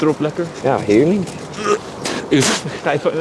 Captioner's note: laughs; vomits